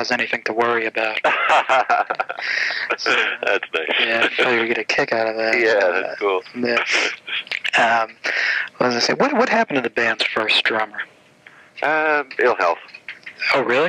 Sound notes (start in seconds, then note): 2.3 laughs